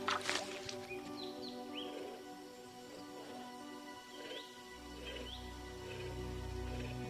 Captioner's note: birds tweeting